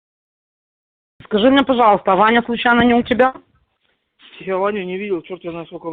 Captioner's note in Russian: говорят по-русски